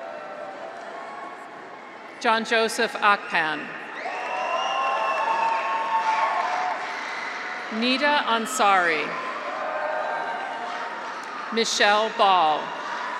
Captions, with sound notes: (graduates cheer) John Joseph Akpan. (graduates cheer) (audience applauds) Nida Ansari. (graduates cheer) Michelle Bal.